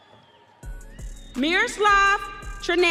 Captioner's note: audience cheering